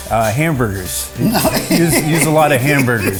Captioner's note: laughs